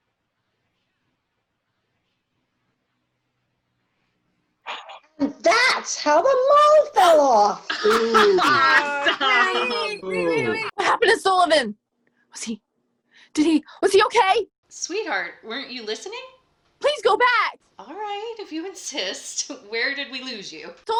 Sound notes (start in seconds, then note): 0.2 silence; 7.8 laughter from some, revulsion from others; 10.0 agitated